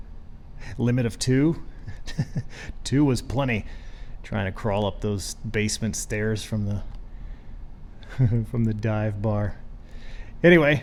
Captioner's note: laughs